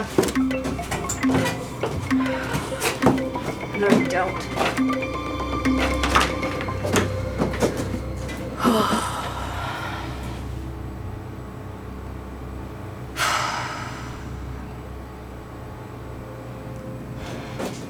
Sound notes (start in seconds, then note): 0.2 computer chiming; 7.6 sighs